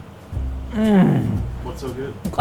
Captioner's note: groans